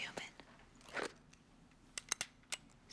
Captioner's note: gun cocks